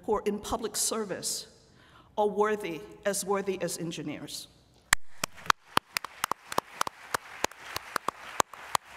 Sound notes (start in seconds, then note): 5.0 applause